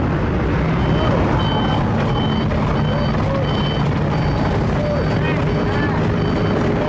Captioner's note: engine Rumble